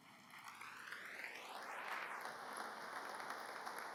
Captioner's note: applause